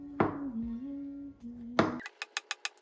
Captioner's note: spontaneous hum